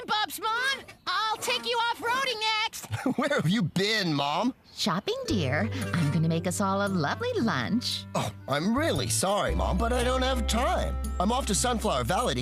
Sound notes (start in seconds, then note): 2.8 chuckles